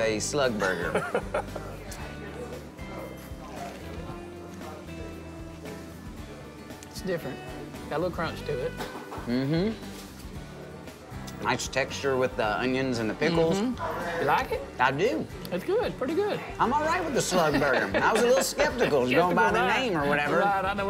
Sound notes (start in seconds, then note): 0.6 chuckles